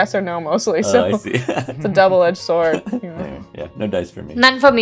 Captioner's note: laughs